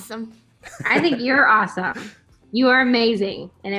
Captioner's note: laughs